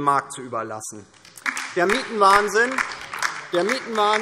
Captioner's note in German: Beifall DIE LINKE